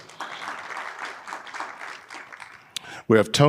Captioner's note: audience applauding